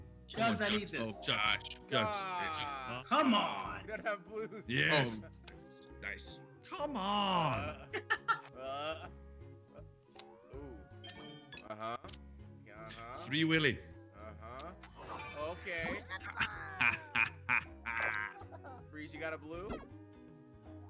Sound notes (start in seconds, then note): 3.8 laugh; 7.4 laugh; 16.3 laugh